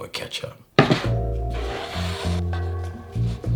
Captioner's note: board sliding